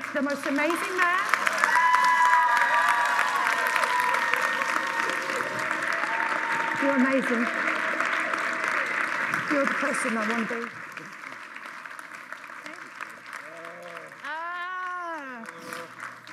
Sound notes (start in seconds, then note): 2.1 applause; 5.8 whispering